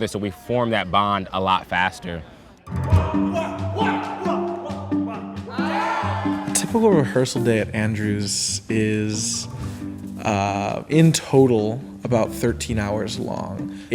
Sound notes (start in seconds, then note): 2.8 group yelling